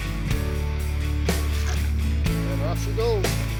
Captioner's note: splash